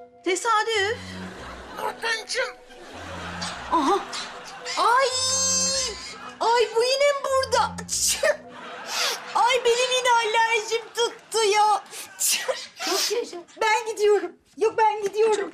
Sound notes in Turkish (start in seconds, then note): 7.5 Hapşırma Sesi; 12.1 Hapşırma Sesi